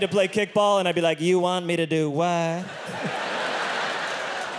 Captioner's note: audience laughing; chuckles